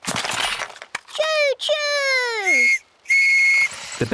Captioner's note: blasts on whistle